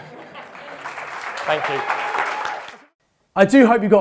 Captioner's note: crowd laughing; crowd clapping